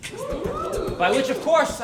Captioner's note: crowd